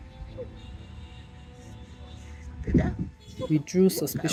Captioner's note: chaotic honking horns sound effect